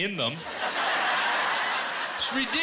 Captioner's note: laughter